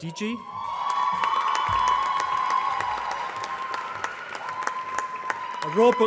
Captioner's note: applause